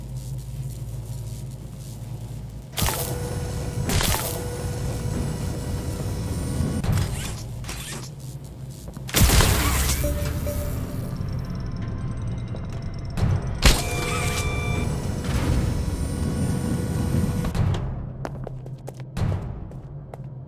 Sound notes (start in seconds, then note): 0.2 gun fires; 3.2 footsteps; 3.2 gun fires